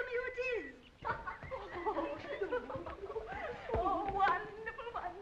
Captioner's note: girls giggling